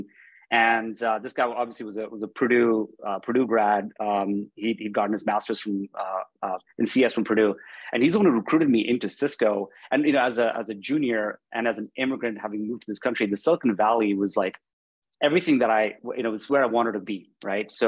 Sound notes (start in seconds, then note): none